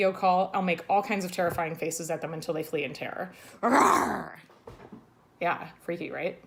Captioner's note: growls